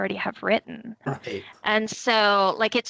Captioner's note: chuckling